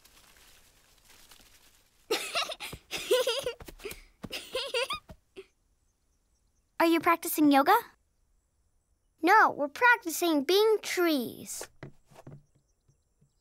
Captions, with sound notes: [LAUGHS] Are you practicing yoga? No, we're practicing being trees.